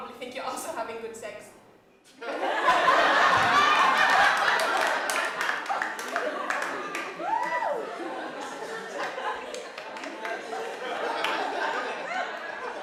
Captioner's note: laughter